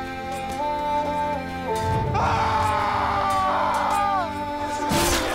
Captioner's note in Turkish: Haykırış; Fon Müziği Ve Kılıç Sesleri